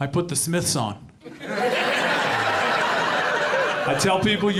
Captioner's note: audience laughs